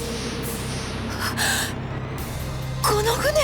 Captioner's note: gasp